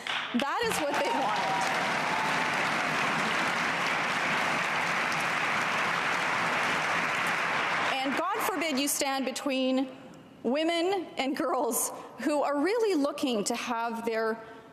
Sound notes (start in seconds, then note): 2.9 cheers and applause